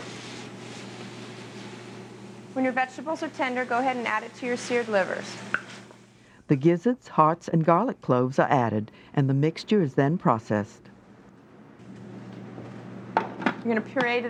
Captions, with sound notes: When your vegetables are tender, go ahead and add it to your seared livers. - [Voiceover] The gizzards, hearts, and garlic cloves are added, and the mixture is then processed.